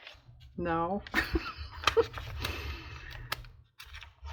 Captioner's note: laughs